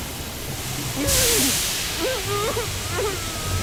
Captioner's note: whimpering